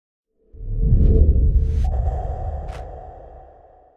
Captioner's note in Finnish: Ääniefekti